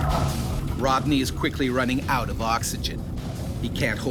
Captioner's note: voiceover